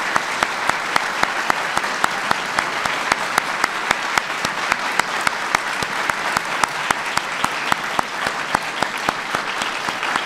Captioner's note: applause